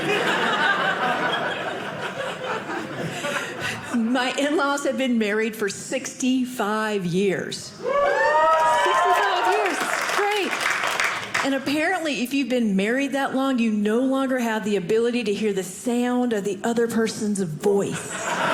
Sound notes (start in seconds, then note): 0.0 audience laughing; 7.4 audience laughing